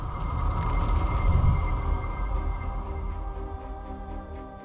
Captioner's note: logo whooshing